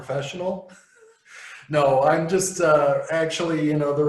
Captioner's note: laughs